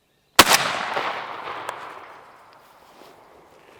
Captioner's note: gunshot